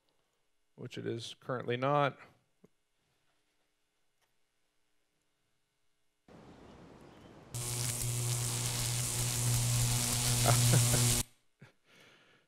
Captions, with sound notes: which it is currently not... [Electricity buzzing] [Electricity buzzing] [Laughing]